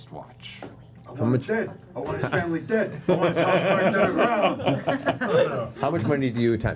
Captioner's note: Capone voice